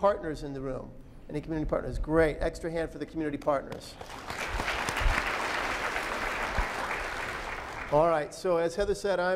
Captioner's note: applause